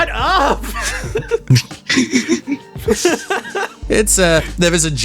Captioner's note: laughs